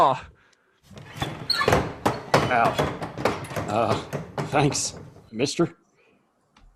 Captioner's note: batwings squeak as he exits